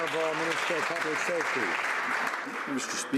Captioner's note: some Applause